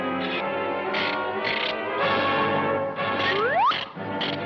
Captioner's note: monster clicking